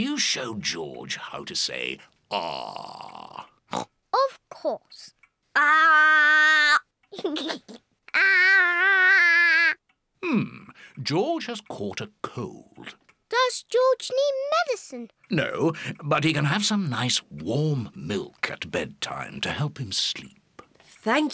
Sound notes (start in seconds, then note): 3.7 oinks; 7.1 giggles